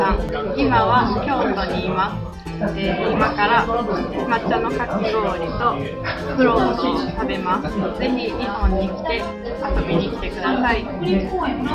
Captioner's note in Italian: parla giapponese